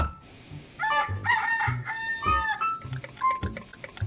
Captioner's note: rooster crows